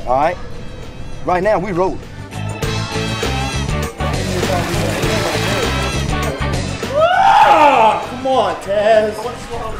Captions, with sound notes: All right? Right now, we rolling. (upbeat funky music) (screaming) - Ah, come on, Taz!